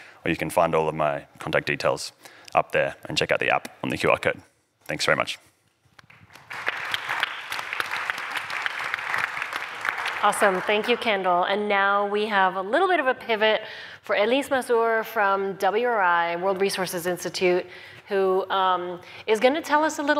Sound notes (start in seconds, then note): 6.0 applause